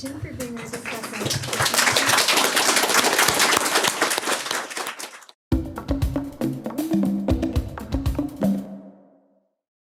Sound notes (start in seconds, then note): 3.0 audience applause; 5.5 upbeat music